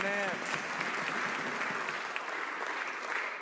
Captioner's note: some Applause